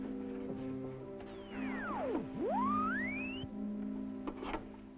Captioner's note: device warbles